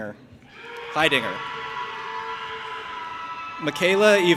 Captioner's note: audience applauding and cheering